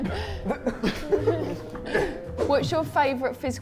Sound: Sidemen chuckle

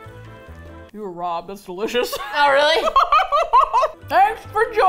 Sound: both laugh

